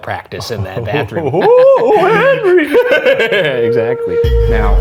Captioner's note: laughing